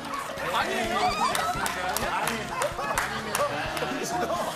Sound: clapping so hard with emotion

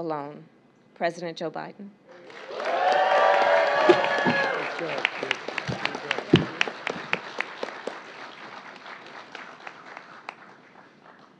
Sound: applause

